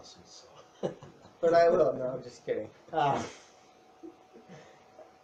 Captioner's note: laughs